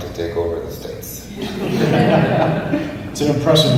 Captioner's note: audience laughs